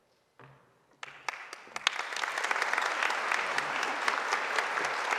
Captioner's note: audience applauding